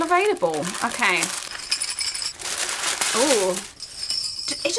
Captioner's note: bells jingle